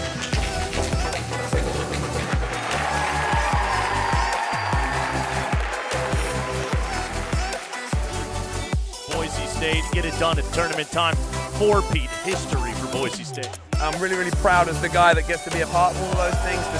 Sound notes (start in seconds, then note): 0.7 upbeat drum music; 3.2 applauding